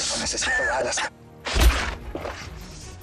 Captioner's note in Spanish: Golpes